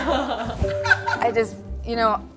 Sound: laughing

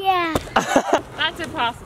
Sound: laughs

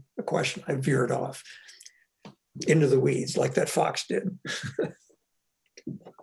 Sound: laughs

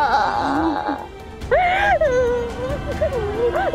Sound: crying

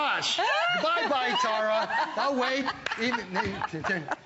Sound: laughter

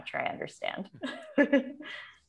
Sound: chuckle

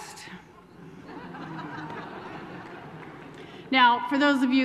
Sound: laughter

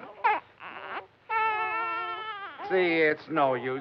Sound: baby crying

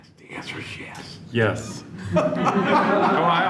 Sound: laughter

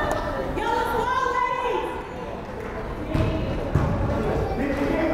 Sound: fans shouting

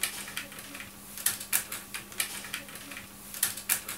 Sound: typing

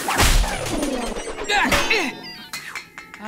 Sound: grunting

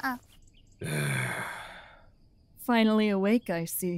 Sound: deep Sigh

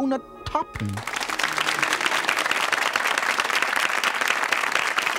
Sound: audience applauding

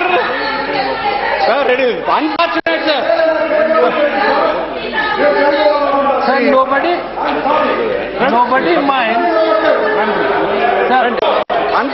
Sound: Other Telugu MP's shouting on behalf of Insulted MP Harikrishna

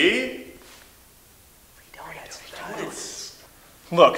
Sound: cult members whispering

